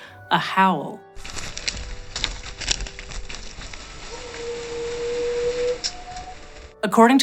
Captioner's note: crunching leaves, distant howl?